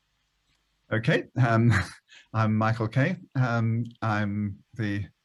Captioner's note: chuckles